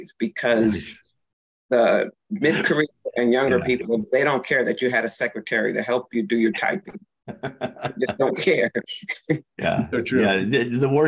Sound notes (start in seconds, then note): 7.3 laughs